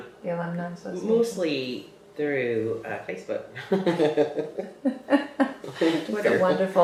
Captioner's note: laughter